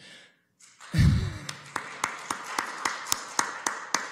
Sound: applause

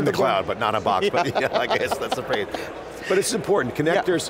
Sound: laughs

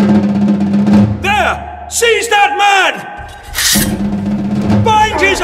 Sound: shouts. A scuffle

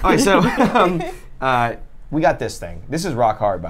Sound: laughs

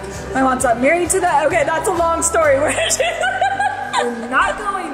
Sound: laughs

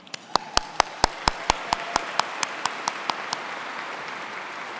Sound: audience clapping

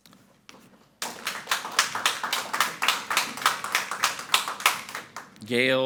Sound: audience applauding

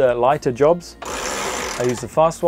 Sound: winch rattling

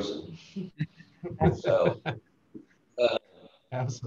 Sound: laughs

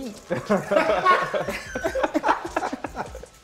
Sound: laughter

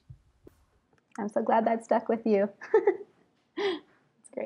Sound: laughs

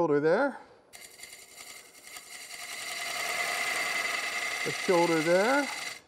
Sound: wood lathe chattering

